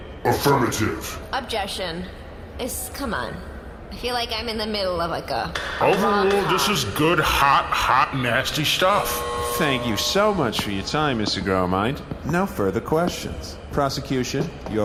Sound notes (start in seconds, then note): 5.6 banging gavel; 8.6 buzzer sound